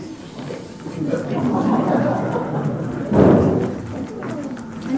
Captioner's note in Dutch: publiek lacht